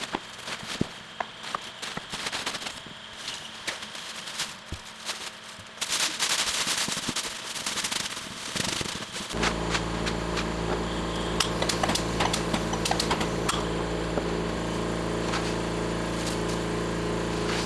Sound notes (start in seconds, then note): 5.5 paper crinkling; 9.7 machine clanking; 9.7 spraying